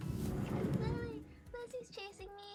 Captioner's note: door slides opened